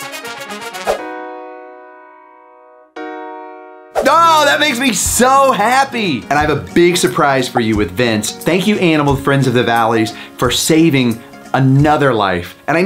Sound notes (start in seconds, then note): 0.7 screen swooshing